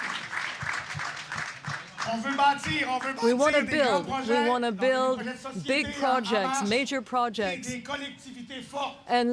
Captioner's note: applause